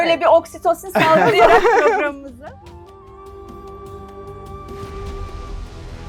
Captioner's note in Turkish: kahkaha